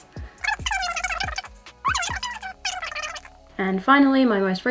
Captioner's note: high-pitched sped-up talking